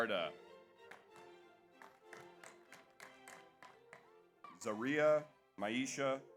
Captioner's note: audience applauds